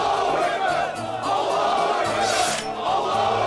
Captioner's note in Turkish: Hep bir ağızdan; Kılıç çekme sesi; Hep bir ağızdan